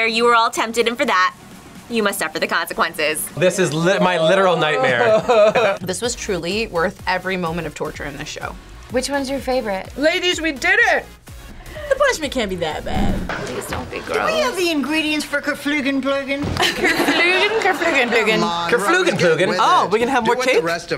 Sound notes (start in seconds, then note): 17.3 laughs